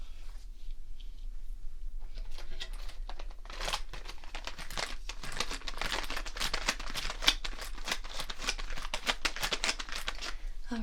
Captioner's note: rustling markers